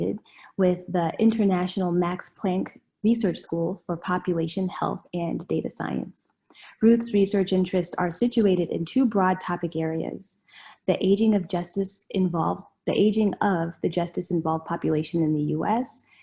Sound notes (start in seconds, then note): none